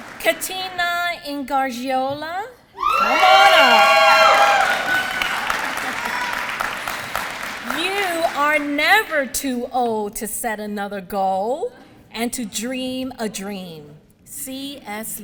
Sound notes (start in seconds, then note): 3.0 applause